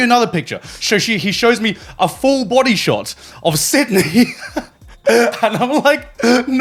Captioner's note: laughing